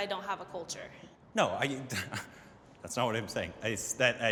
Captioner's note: laughs